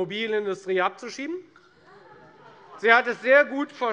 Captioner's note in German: Lachen BÜNDNIS 90/DIE GRÜNEN